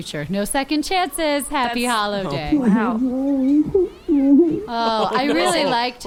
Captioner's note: Jiminy sobbing inside the flap